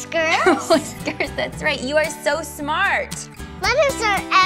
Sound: laughs

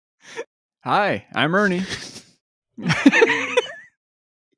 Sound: laughter sustains; laughing

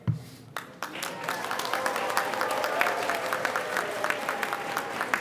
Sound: audience applauding

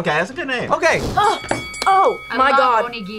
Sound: bell dings

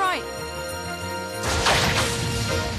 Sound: thunder

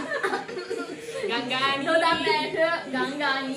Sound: laughing

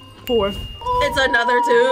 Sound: bell dinging

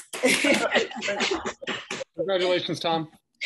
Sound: everyone applauding

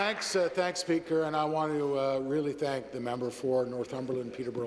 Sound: applause

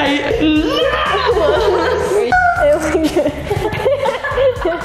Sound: laughing

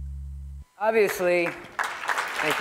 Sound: applause

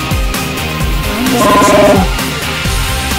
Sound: wookie growls

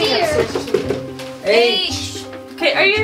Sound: knocking on door

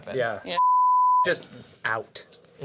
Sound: beep

